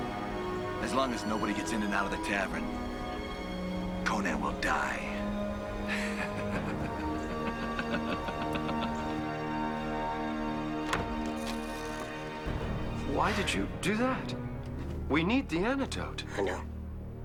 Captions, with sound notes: As long as nobody gets in or out of the tavern, Conan will die. (laughing) (window closing) - Why did you do that? We need the antidote. - I know.